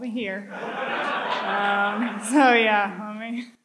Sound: audience laughs

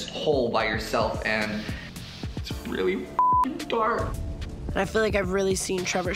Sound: beep

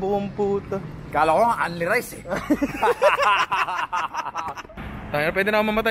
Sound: laughter

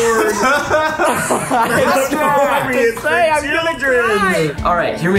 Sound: group laughing

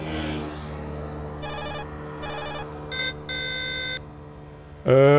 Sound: alarm noises

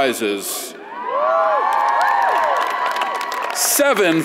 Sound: audience cheers

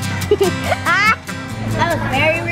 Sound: laughing

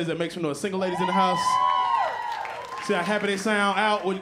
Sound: cheers and applause

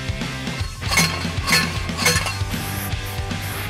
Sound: banging

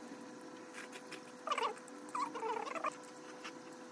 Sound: laughing

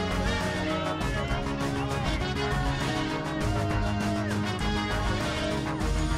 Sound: cheers and applause

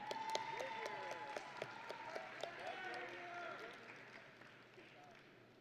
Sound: audience and graduates cheering

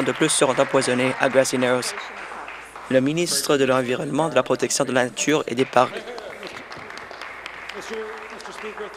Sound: some Applause

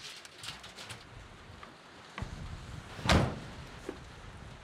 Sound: door opens, slams shut

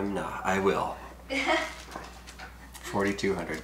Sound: chuckling

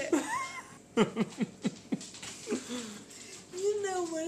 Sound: laughing

